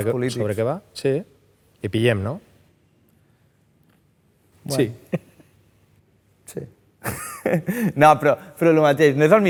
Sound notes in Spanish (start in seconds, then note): 7.1 ríe